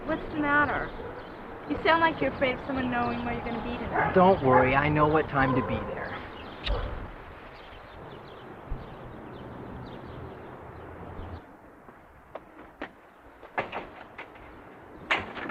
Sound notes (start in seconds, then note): 6.6 kiss smacks